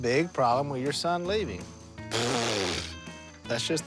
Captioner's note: blows raspberry